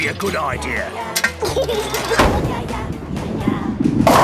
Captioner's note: giggles